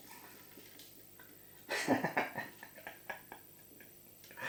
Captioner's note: laughs